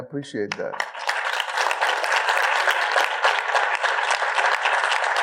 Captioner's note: audience applauding